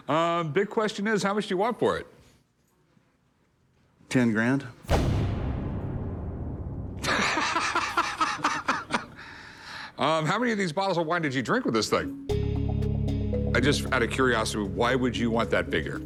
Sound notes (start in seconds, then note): 4.7 foreboding music; 7.0 laughs